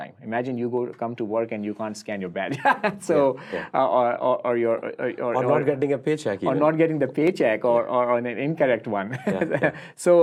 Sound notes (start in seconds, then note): 2.5 laughs